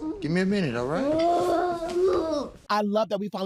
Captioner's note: groans